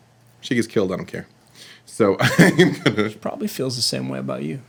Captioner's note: laughs